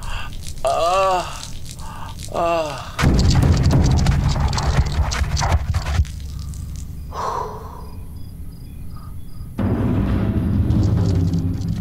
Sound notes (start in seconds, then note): 0.0 urine runs; 1.8 Papi sighs; 3.5 scorpion scurries; 9.5 ominous music